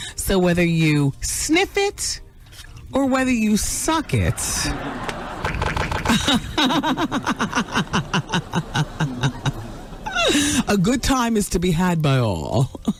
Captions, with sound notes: So whether you sniff it or whether you suck it. (laughing) A good time is to be had by all.